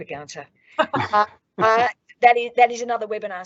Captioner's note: all laugh